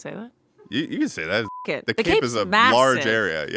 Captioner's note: beep